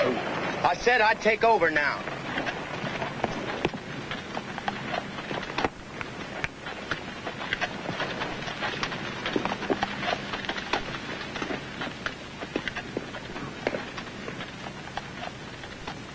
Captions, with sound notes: I said I'd take over now. [HORSED TROTTING AWAY]